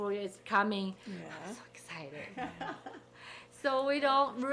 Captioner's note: people laughing